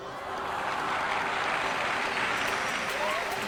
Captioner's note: audience gasps